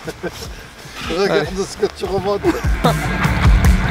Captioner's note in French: rires